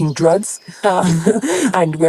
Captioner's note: laughs